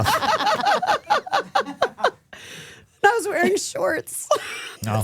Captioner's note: laughing